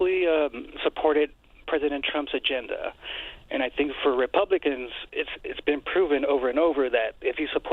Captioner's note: none